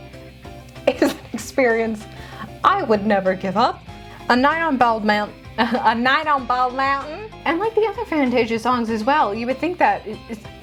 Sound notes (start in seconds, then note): 5.6 in an overemphasized southern accent